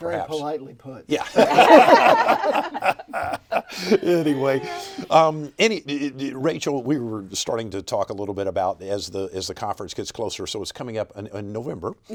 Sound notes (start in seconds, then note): 1.3 everybody laughing